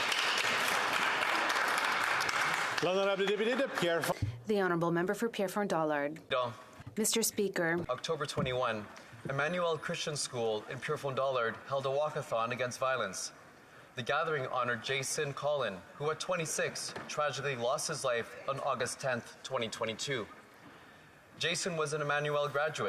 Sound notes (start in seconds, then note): 4.8 applause; 8.5 speaking French